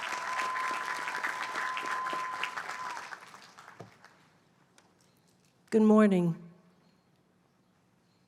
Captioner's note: applause